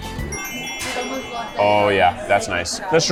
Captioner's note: magic sparkles